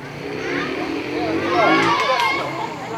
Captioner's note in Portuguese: Motos passam na rua